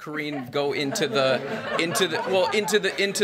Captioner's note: laughter